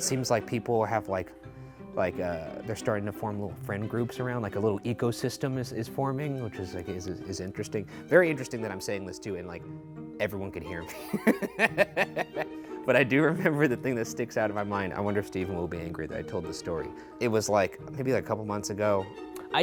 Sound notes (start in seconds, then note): 10.9 laughs